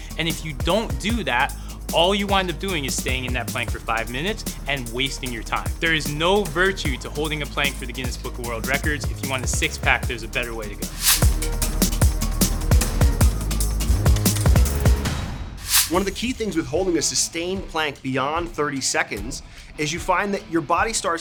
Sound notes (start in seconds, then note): 10.8 screen swooshes; 11.7 upbeat music; 15.6 screen swooshes